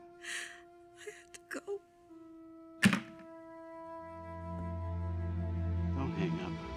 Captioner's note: crying